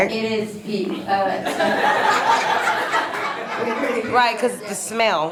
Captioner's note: audience laughs